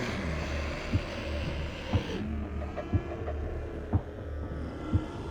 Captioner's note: dramatic music; dinosaurs screeching; dramatic music